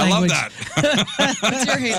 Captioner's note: laughing